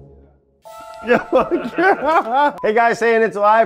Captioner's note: laughs